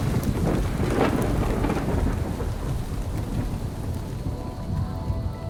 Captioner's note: thunder crashing; gentle orchestral music